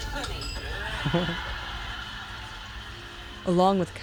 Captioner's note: laughter